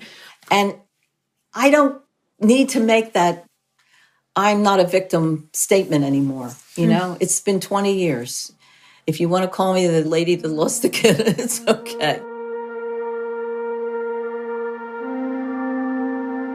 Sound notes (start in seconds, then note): 11.3 laughs